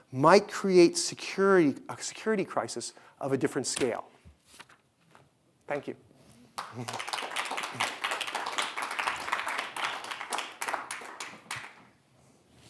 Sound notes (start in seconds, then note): 6.5 audience applauding